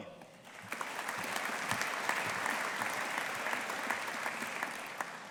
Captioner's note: audience applauding